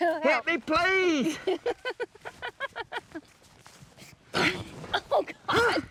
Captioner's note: laughter